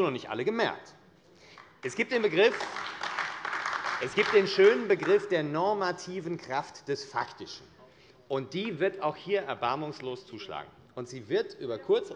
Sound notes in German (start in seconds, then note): 1.5 Beifall AfD